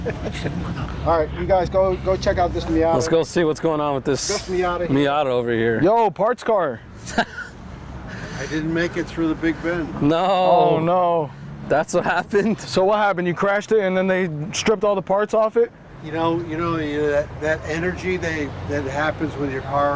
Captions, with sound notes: [LAUGHTER] All right, you guys, go check out this Miata. Let's go see what's going on with this Miata over here. Yo, parts car. [LAUGHTER] I didn't make it through the big bin. No. Oh, no. That's what happened? So, what happened? You crashed it, and then they stripped all the parts off it? You know, that energy that happens with your car,